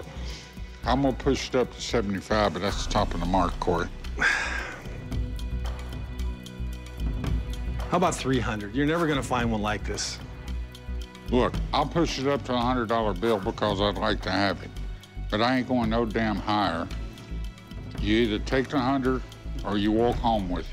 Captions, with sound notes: I'm going to push it up to $75, but that's the top of the mark, Corey. [sigh] How about $300? You're never going to find one like this. Look, I'll push it up to a $100 bill because I'd like to have it, but I ain't going no damn higher. You either take the hundred, or you walk home with it.